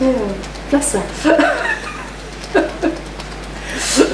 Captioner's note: laughs; tapping